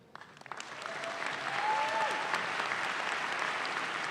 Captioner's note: audience claps